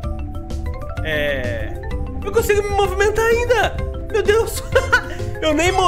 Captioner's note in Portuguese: risos